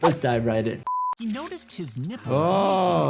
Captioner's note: beeps